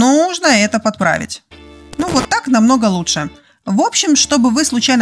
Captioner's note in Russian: звук глича